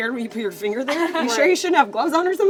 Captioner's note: laughs